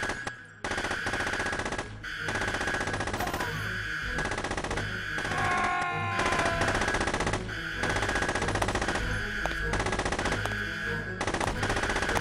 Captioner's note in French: coups de feu et cris